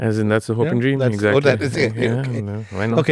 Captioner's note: chuckles